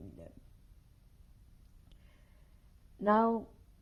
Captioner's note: pauses for 3 seconds